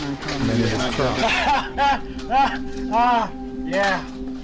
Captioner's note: laughs